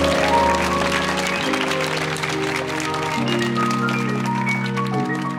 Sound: audience applauding

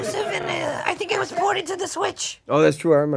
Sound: audience laughs

